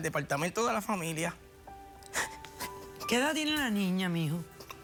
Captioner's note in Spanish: sollozos